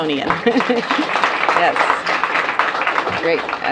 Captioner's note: applause